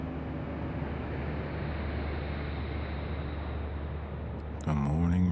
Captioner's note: traffic humming